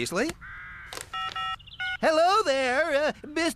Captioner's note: phone Buttons Beep